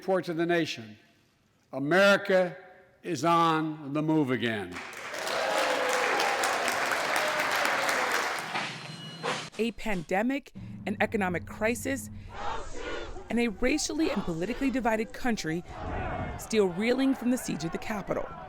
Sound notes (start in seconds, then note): 4.7 cheering and applause